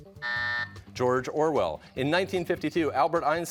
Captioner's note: buzzer